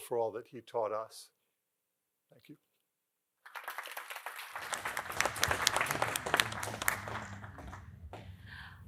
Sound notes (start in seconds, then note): 3.4 applause